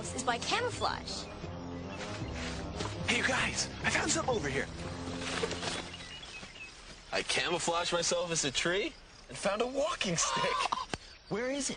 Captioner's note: chuckles